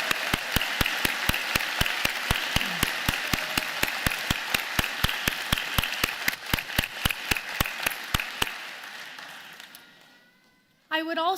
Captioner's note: applause